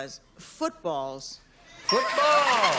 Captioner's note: ding; laughter